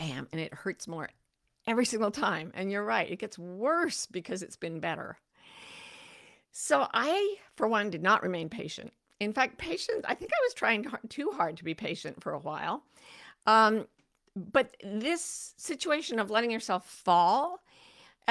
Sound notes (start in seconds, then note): 5.4 deeply inhales